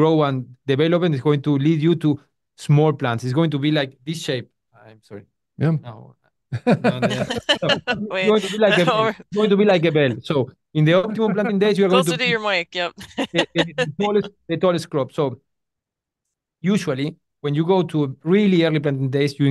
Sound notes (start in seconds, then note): 6.5 everyone laughing; 13.7 laughs